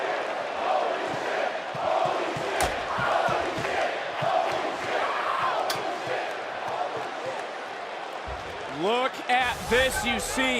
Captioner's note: crowd chants